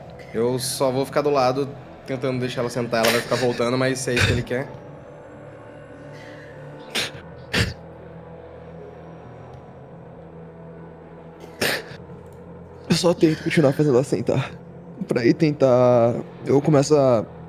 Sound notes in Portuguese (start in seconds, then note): 7.5 Chorando; 11.4 soluçando; 11.6 Chorando